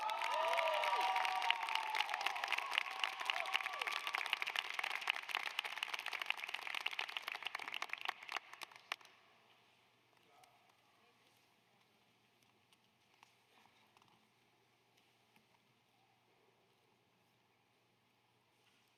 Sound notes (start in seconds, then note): 7.7 applause